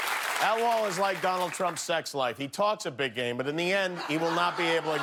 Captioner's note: cheers and applause